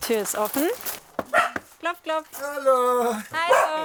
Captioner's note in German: Hundebellen